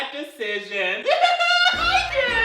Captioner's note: laughs